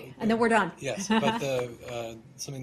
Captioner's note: laughter